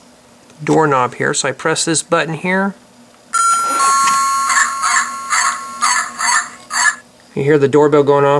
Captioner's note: door bell rings ... Dog barks